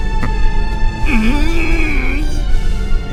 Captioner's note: frustrated groan